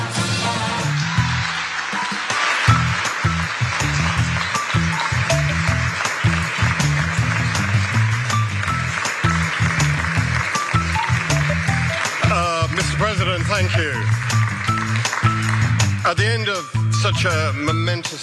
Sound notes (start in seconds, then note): 7.1 applause